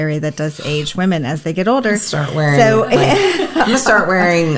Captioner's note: laughs